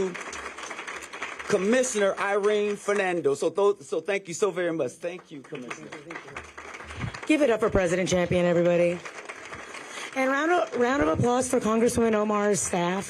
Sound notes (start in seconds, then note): 3.4 applause